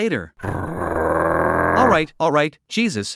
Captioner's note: growls